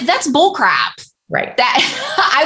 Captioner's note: laughter